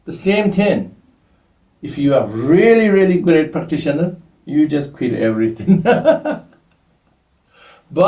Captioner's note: laughs